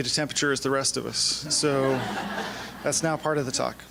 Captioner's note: laughing